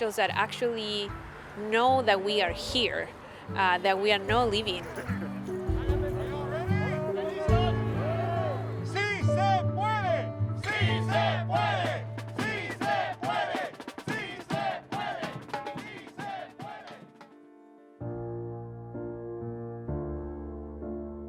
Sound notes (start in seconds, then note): 10.6 people cheering; 18.4 serene music